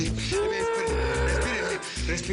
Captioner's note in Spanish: Fuertes gemidos